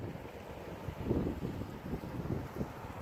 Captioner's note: wind blowing